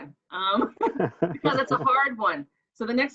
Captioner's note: laughs